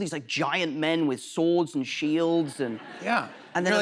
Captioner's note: laughter